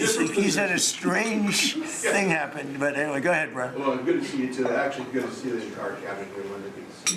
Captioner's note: laughter